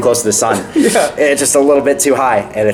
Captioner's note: laughs